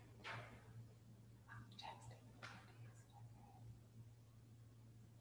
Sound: whispering in background

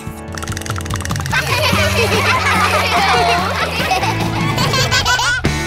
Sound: laughing

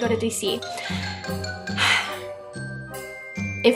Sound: sigh

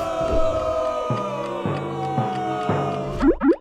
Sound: booing audience; clock ticking

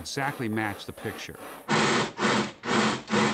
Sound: chuffing

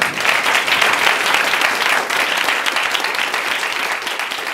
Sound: applause

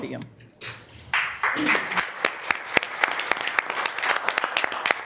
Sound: audience applauding

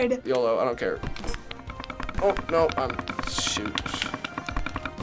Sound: timer rattling

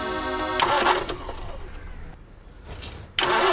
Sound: engine struggles to start

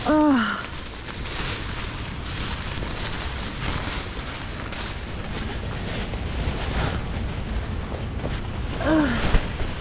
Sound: rustling around

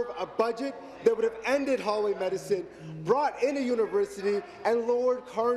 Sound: none

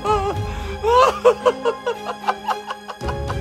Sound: crying

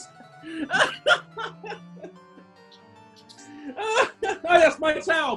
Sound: laughter

